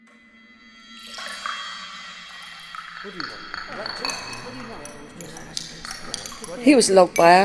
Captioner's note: teacups clatter